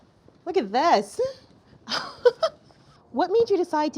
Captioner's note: chuckles